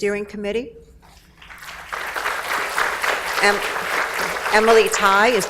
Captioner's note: audience applauds